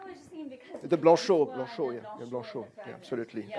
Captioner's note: french